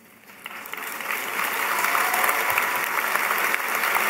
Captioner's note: applause